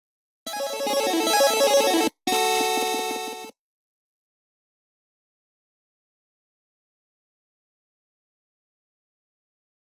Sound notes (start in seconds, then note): 0.4 8-bit video game music; 5.4 silence